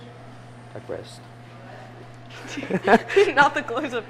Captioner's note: laughs